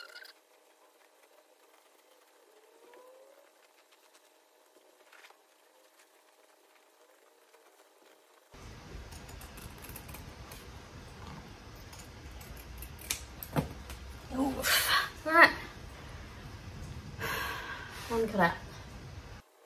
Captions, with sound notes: [scissors make quiet cutting and snip noise, then thud onto floor] Ooof! Alright! [sighs] One cut out.